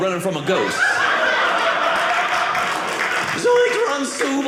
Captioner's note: audience laughing